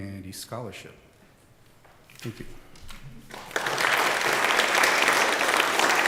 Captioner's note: applause